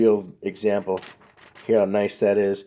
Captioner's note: note crackles